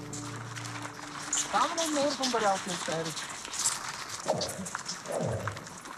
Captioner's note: foreign spoken audio